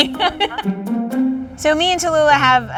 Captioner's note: laughs